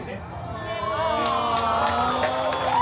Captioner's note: guests reacting with a collective “Oh!”